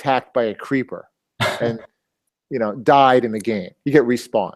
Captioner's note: laugh